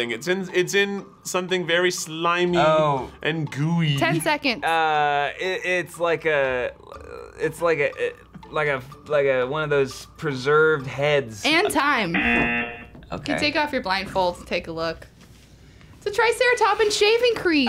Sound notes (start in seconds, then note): 12.1 buzzer